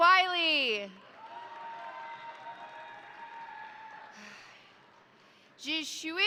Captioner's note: crowd applauding; crowd cheering